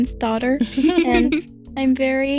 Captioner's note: laughing